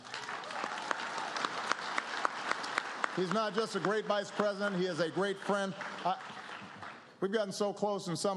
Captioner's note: applause